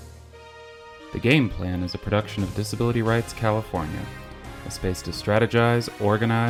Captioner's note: voiceover